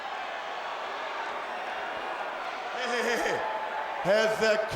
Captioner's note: crowd cheering